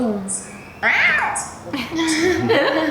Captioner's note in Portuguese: grito; risos